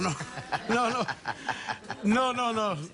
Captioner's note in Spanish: Risas